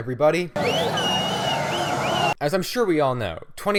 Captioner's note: celebration sounds